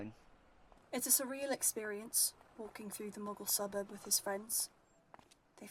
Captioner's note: footsteps